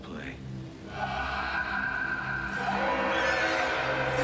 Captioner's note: eerie voices whispering; tense instrumental music